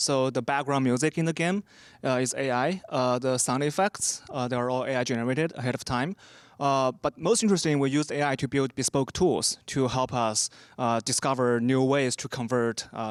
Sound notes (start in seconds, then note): none